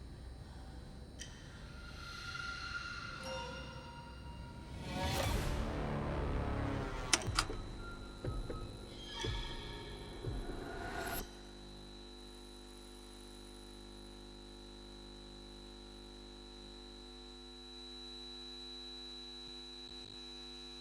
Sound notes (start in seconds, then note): 0.2 gentle tense music continues; 7.1 button clicks; 8.5 screen humming; 17.0 high-pitched tone ringing